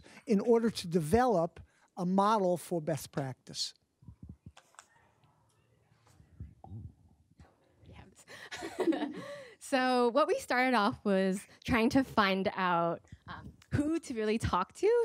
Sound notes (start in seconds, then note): 8.4 laughter